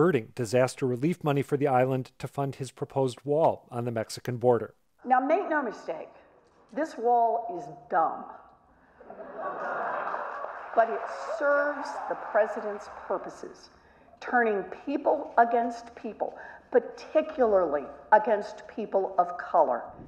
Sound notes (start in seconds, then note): 9.0 laugh; 9.5 applause